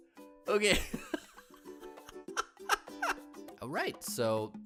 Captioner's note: laughs